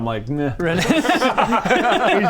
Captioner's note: fickle laughter